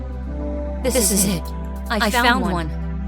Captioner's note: voice echoing